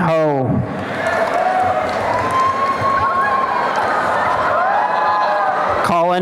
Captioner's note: applause and cheering